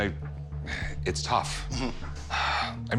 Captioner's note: sighs